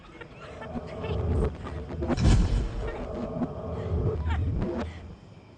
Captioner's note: Cassandra cries in the background